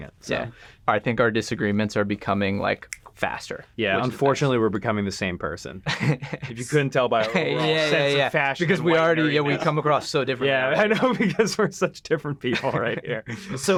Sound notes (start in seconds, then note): 10.8 laughs